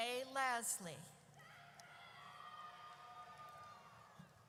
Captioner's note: audience cheers